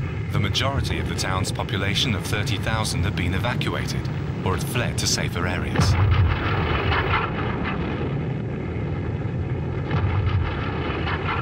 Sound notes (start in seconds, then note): 5.5 gun booming